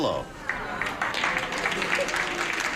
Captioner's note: scattered applause